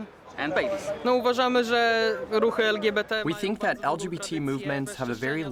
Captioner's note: through translator